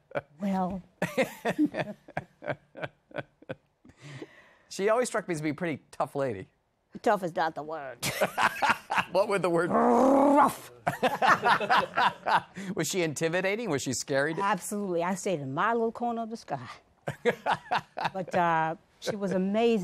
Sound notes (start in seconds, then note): 8.5 laughs; 10.8 laughter; 17.1 laughs